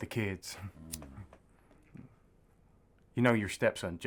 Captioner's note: Marty grunts